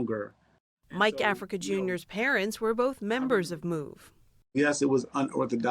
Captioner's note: voice-over